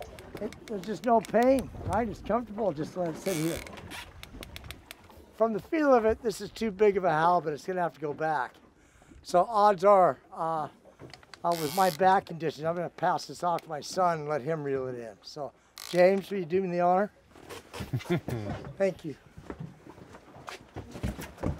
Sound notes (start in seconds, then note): 17.8 chuckling